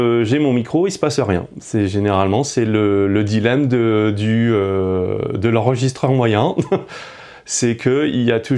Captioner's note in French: rires